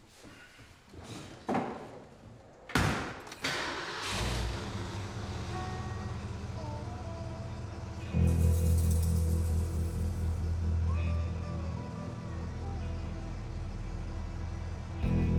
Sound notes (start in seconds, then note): 2.7 closes car door; 3.3 engine starts